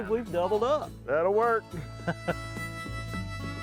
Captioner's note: laughs